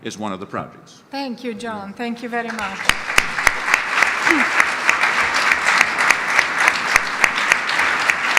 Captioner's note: audience applause